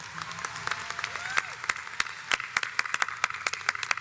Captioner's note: audience applauds